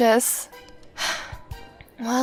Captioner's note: sigh